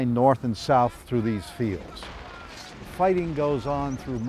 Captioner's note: soldiers shout